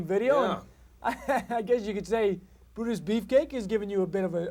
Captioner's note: chuckles